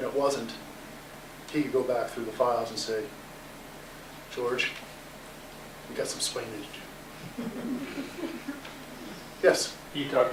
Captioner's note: laughter